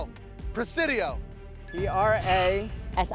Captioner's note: buzzer sounds